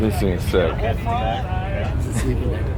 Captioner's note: background chatter